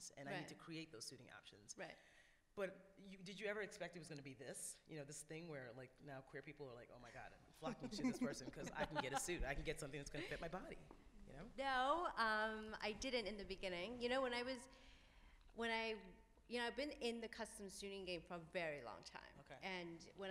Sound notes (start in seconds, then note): 11.8 laughs